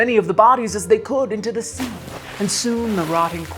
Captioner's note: water splashing